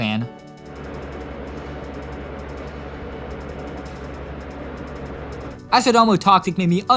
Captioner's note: fan noise